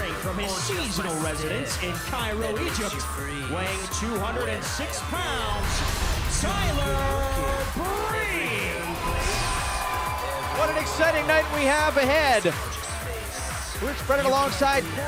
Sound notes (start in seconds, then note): 11.5 crowd cheering